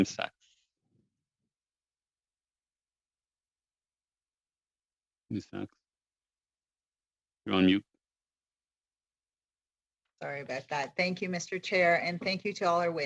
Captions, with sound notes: GENTLEMAN TO -- [ Speaking in French ] .YOU'RE ON MUTE.